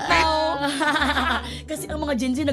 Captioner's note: laughs